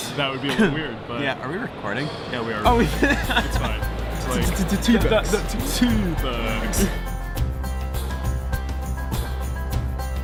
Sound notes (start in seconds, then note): 2.8 laughs; 6.2 light music